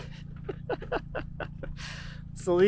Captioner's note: laughs